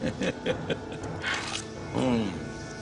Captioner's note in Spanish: Ríe